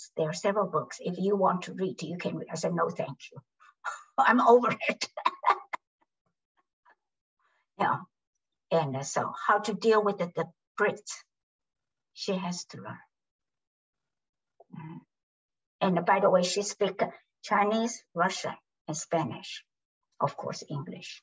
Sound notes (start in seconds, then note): 4.7 laughs